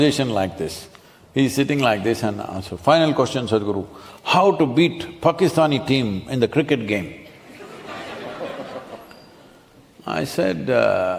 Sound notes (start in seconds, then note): 7.2 laughter